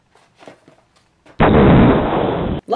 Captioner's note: explosion